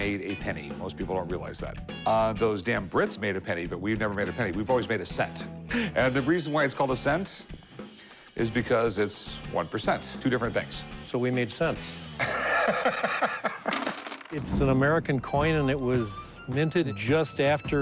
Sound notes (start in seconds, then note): 12.3 laughs; 13.6 coins clinking